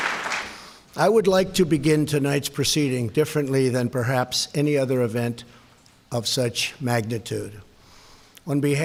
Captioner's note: applause